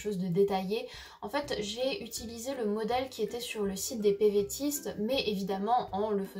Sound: it's in French

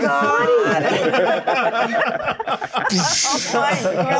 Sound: co-hosts laughing

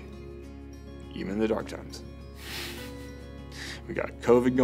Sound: snickers

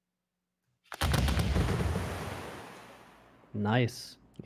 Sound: volley of booming sounds

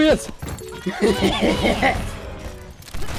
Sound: evil laughter

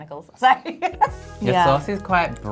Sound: laughs

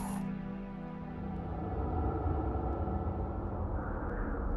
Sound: wind blows

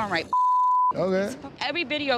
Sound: beep

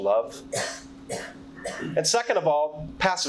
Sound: participant coughing

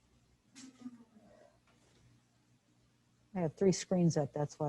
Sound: member chuckles

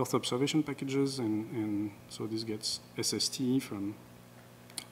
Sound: none

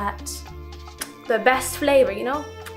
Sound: presenter's lips smack

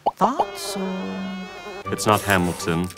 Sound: flies buzzing

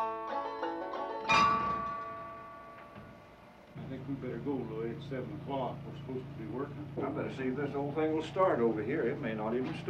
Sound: iron clangs

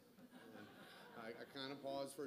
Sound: audience laughter

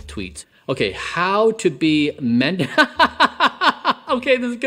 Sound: laughs

